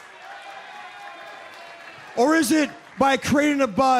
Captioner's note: crowd cheering